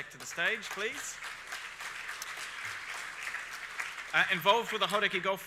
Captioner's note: audience applauds